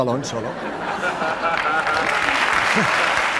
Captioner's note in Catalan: rialles i aplaudiments